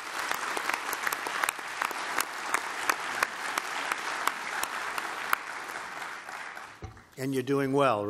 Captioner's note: applause